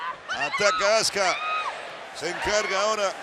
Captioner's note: none